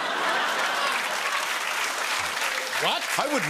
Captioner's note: laughter and applause